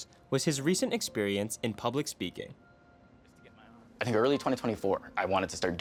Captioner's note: none